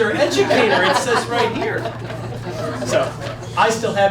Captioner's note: laughing